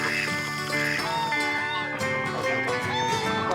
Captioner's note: honk, honk, honk